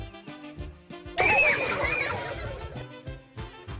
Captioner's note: screaming